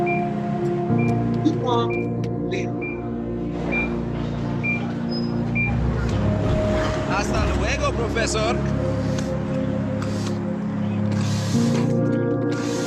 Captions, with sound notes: (microwave beeps) Keep on living. (EKG monitor beeping) (man speaks in Spanish) (pump whooshes)